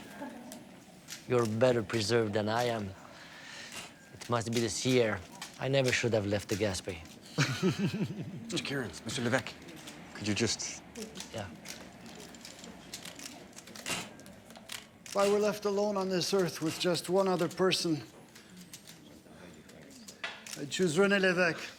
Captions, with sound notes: (camera clicks) You're better preserved than I am. It must be the sea air. I never should have left the Gaspe. (men laugh) - Mr. Kierens, Mr. Levesque, could you just? - Yeah. (camera clicks) - If I were left alone on this earth with just one other person, I'd choose Rene Levesque.